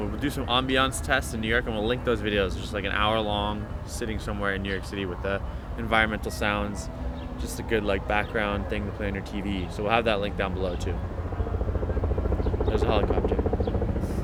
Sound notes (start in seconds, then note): 12.2 helicopter rumbling